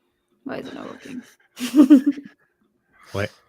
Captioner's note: chuckling